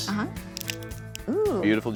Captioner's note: cracking sound